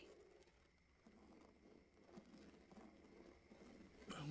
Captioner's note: scraping